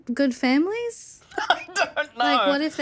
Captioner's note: laughs